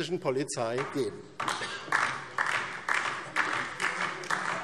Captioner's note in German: Beifall DIE LINKE